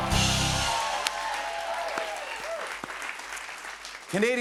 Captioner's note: cheers and applause